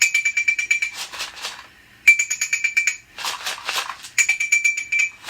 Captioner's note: softly shaking beads; soft clinking